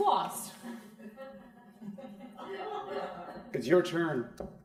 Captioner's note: crowd laughing